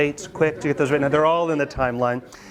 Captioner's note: students laugh